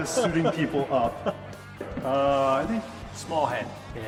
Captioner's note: laughter